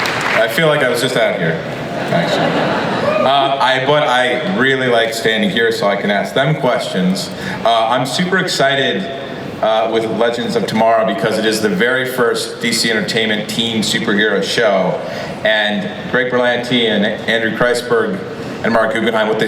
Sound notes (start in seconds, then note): 1.7 audience laughs